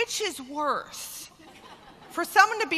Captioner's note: laughter